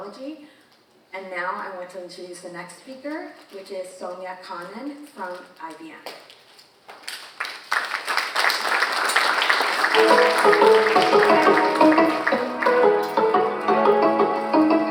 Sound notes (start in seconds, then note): 6.1 cheerful music; 6.9 audience applauding